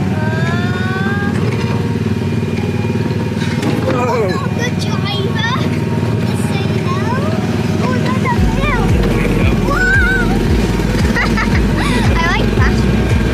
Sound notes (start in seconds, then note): 1.6 ride engine rumbling; 3.5 ride bangs; 7.0 ride engine rumbling; 8.6 giggling; 13.1 ride engine rumbling